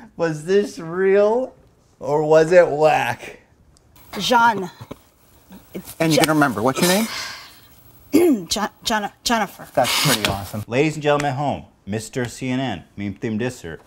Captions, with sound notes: Was this real? Or was it Whack? Zhan and you remember; [snap!] What is your name? [coughs] J-j-jennifer That's pretty awesome Ladies and Gentlemen at home, Mr. CNN, Meme Theme Diss-er